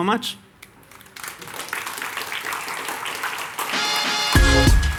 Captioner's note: audience applauding; upbeat music